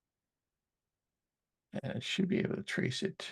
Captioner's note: silence